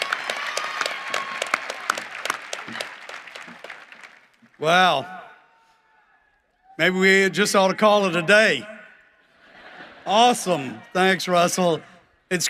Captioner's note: cheering and applause